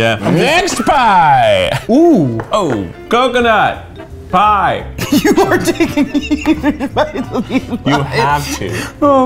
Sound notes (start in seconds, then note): 5.0 laughs